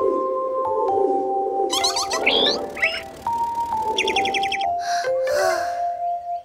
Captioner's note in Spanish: Sonido de pájaro